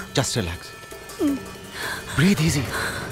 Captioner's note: Moaning continues